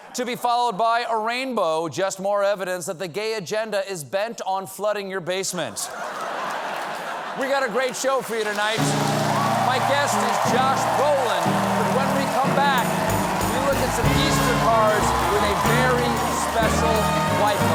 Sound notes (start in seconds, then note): 5.8 laughter